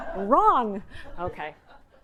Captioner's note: audience laughing